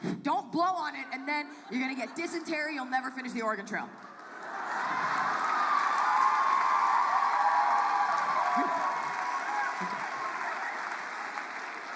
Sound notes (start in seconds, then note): 5.6 applause